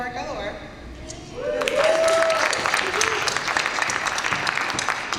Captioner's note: applause and cheers